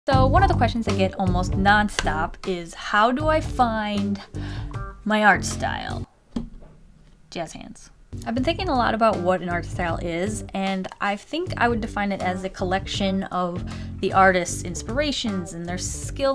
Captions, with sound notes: So one of the questions I get almost non-stop is "how do I find my art style" *awkward pause* jazz hands I've been thinking a lot about what an art style is and I think I would define it as a collection of the artist's inspirations and their skill